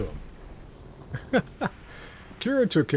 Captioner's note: laughs